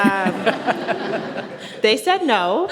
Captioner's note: audience laughs